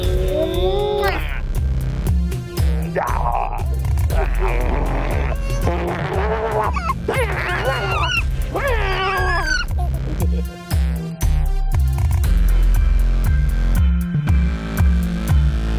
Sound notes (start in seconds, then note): 4.0 Papi growls; 7.1 child squeals, delighted; 12.6 upbeat music